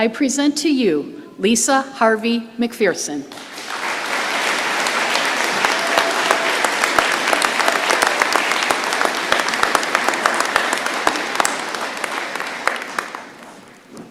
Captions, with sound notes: present to you Lisa Harvey-McPherson. [applause]